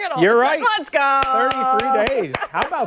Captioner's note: laughter